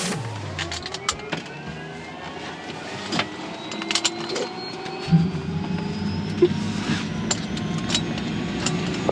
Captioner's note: seat belts clicking